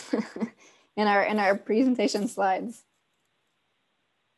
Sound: laugh

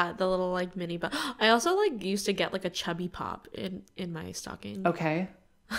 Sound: gasp

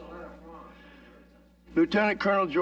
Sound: reporter chattering

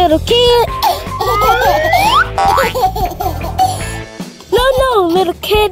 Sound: baby laughing

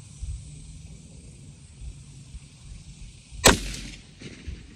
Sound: report of the rifle

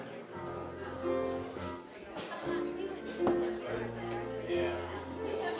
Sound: people chattering

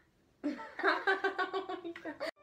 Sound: both laugh

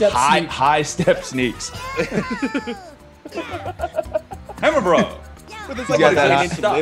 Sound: laugh

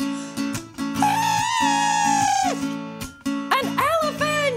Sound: trumpeting

